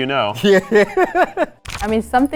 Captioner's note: laughs